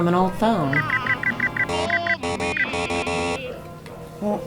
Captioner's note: digital error beeps